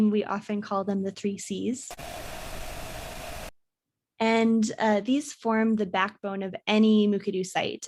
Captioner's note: static